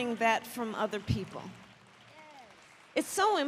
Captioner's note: applause